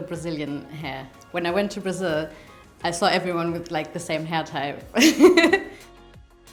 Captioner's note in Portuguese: risos